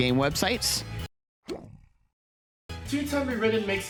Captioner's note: music cuts